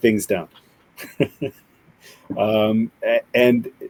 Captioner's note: laughs